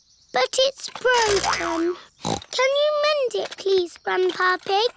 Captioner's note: snorts; snorts